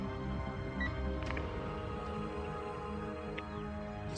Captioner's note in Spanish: Sonido de llamada